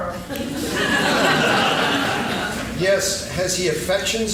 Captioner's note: laughing